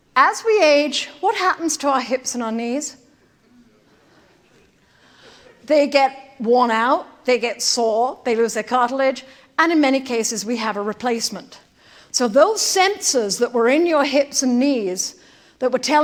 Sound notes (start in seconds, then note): 3.2 indistinct chatter